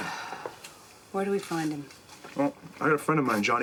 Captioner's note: Freddie sighs